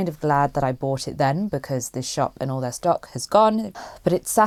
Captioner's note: sighs